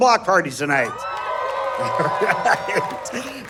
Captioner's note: audience cheering